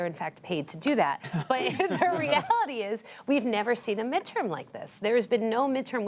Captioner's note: laughter